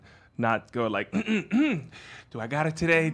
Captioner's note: clearing throat